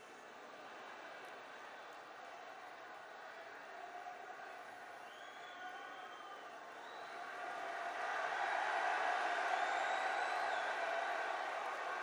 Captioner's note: applause